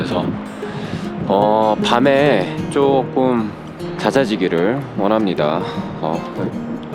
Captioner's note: clouds and wind